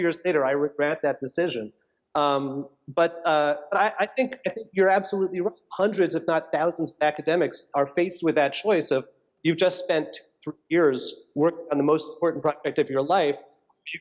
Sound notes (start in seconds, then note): none